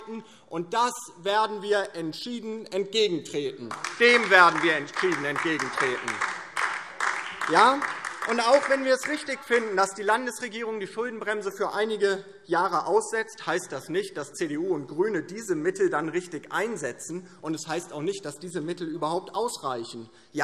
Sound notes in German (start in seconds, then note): 3.6 Beifall DIE LINKE